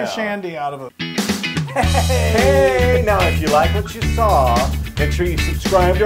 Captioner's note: laugh